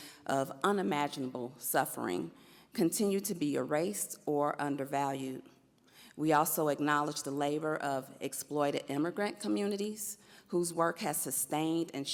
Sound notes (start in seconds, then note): none